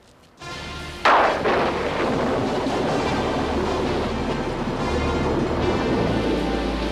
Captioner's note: dramatic music; thunder crashing